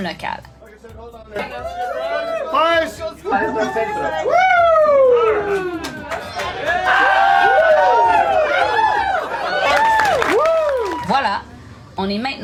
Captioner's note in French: applaudissements